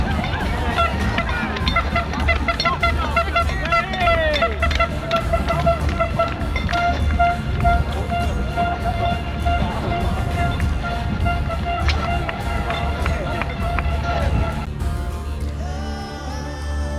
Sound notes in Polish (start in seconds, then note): 1.7 śmiech